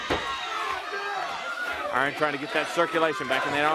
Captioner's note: crowd chatter